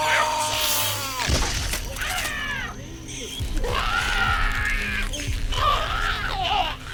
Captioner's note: skull cracking; Giree screaming